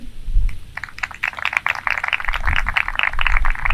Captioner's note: applause